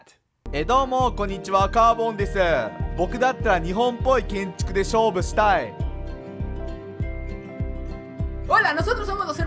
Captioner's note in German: nicht-englische rede